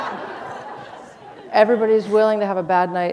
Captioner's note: laughter